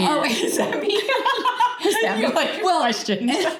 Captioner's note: laughing